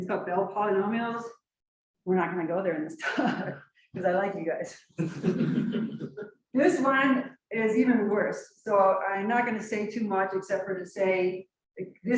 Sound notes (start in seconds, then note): 5.0 chuckles; 5.0 laughs